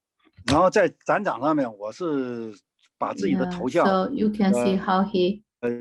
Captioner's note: speaking in foreign language